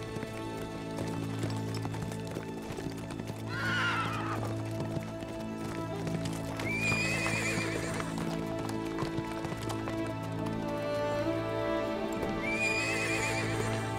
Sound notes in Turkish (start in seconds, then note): 3.4 Nal sesleri